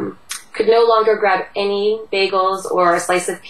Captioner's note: Vietnamese